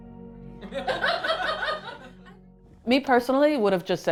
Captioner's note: all laughing